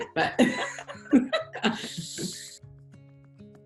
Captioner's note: both laughing